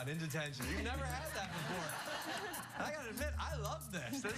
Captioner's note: laughter